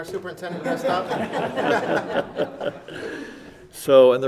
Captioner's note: laughing